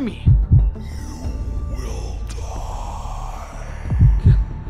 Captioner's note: demonic voice